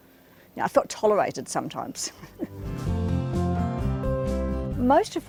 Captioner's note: chuckles